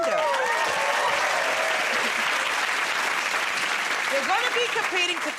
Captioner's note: cheers and applause